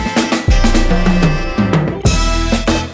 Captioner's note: none